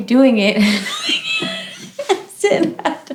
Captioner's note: laughter